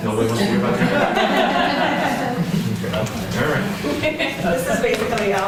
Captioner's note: laughter